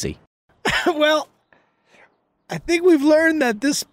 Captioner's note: Charlie laughs